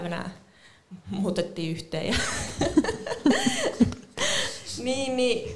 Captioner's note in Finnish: Naurahtaa